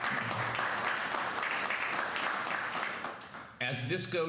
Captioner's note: applause